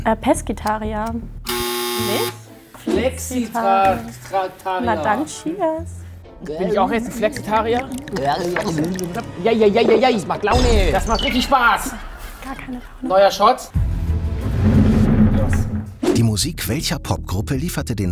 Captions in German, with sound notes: Pescetarier. Nicht? Flexitr- ... Flexitarier. - Na dann, Cheers. Bin ich auch jetzt ein Flexitarier? (Gluckernde Laute) Jeijeijeij! - Das macht Laune. Das macht richtig Spaß. - Das macht gar keine Laune. Neuer Shot. (Spannungsvolle Musik)